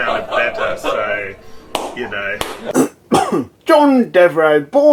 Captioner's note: laughter, clapping